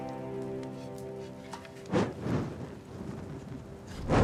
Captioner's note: fire whooshing